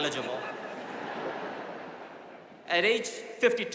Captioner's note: audience laughing